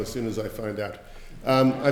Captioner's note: laughter